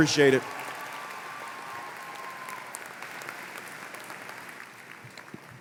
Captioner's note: applause